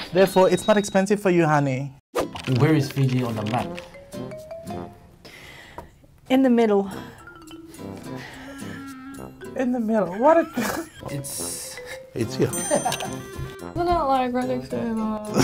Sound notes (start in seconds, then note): 10.0 laughs; 12.3 both laughing